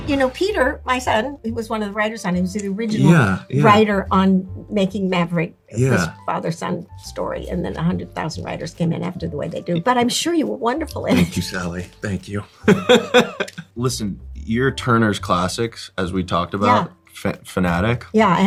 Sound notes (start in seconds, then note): 12.6 Lewis laughing